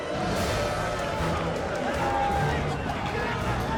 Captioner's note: people chanting